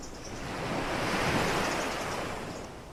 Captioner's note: sea swashing